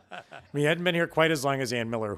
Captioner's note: laughing